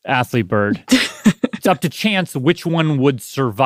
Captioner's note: laughs